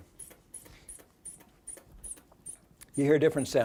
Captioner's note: air pumping